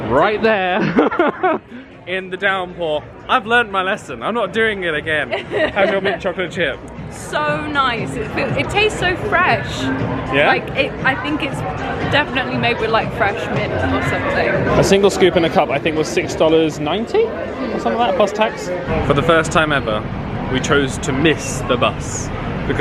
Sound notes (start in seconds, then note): 0.7 laughs; 5.3 laughs